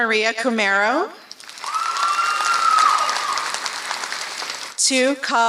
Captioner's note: applause